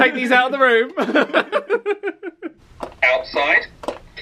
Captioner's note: both laugh